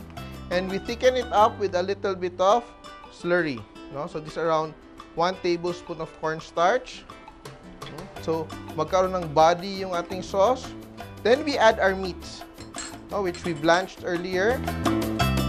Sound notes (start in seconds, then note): 12.6 clink